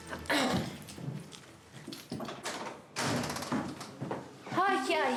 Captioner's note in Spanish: carraspea